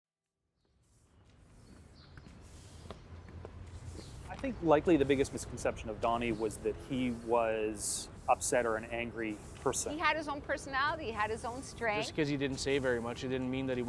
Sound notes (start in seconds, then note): 0.7 sound of footsteps